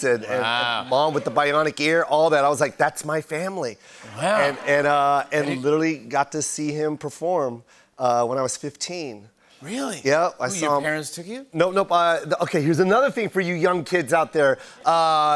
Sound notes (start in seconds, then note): 4.1 laughter